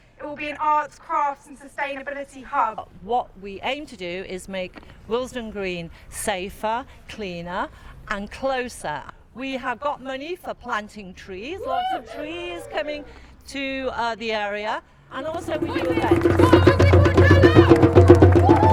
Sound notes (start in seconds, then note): 15.2 drum roll; 15.2 crowd cheers